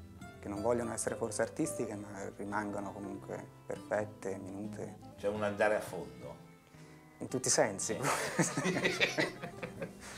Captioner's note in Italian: Risate